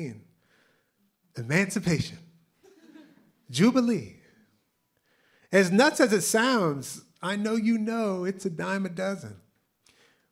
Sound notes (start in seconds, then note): 2.6 laughter